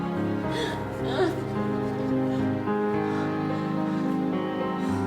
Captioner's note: whimpering